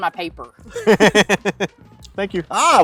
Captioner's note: laughter